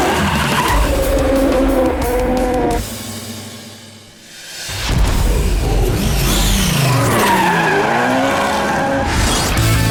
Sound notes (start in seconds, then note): 6.9 tyre noise & stuff; 8.4 car noise - vroom & things